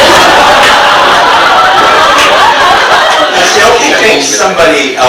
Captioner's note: audience laughs